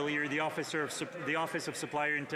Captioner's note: some Applause